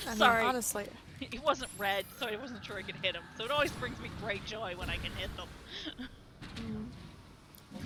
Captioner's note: laughs